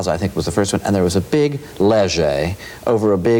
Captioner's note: speaks foreign language